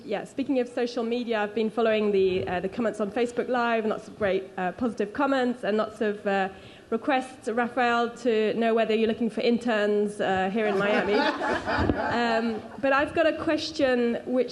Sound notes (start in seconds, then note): 10.7 audience laughs